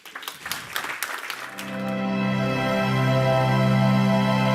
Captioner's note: audience claps